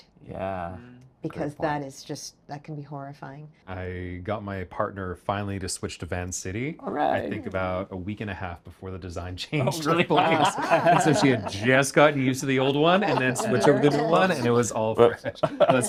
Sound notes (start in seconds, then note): 9.6 everybody laughing